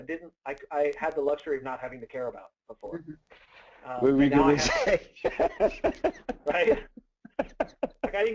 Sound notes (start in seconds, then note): 4.4 laughing